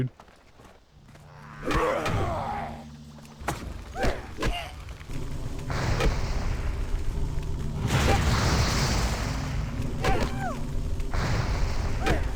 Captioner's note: gun fires